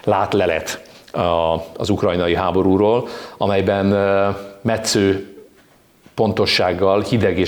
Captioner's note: in Hungarian